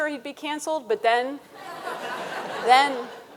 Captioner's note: audience laughing